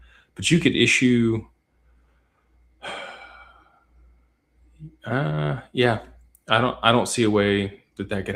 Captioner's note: sighs